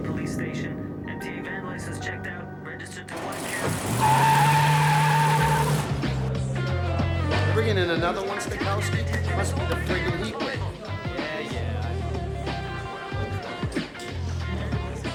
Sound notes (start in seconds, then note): 3.1 tires screech